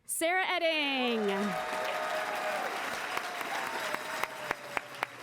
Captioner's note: applause